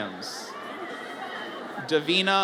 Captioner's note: audience cheers